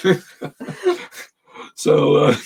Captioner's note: both chuckling